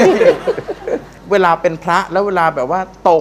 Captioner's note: laughing